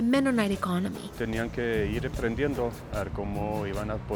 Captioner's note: speaking Spanish